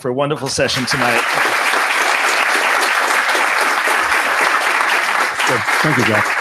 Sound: applause

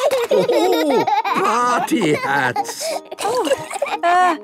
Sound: laughing

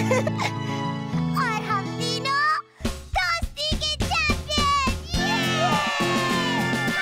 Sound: laughs

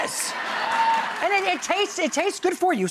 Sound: crowd laughs

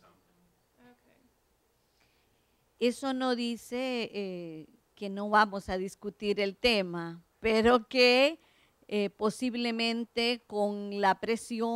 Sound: Spanish

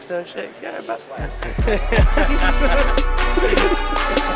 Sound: laughing; dance music

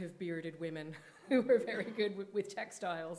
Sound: chuckling

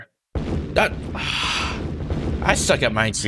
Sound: Minesweeper explosion sound; sighs

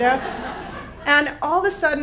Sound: audience laughs

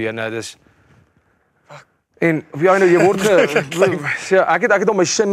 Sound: laughs

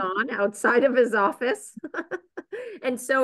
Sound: chuckles

